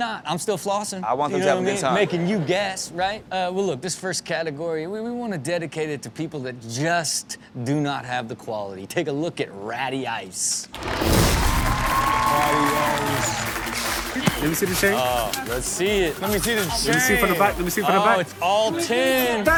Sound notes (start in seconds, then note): 1.8 crowd laughs; 10.8 crowd cheers